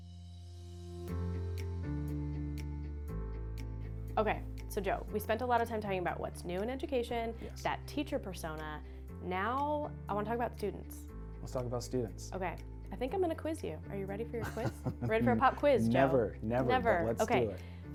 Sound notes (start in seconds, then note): 0.1 energetic upbeat music; 14.4 laughs